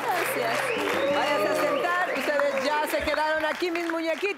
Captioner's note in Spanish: Exclamaciones